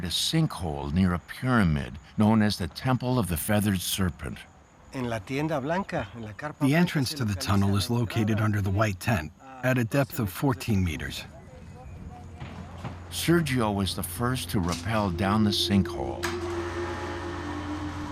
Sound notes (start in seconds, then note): 3.6 speaking Spanish; 16.1 machine whirring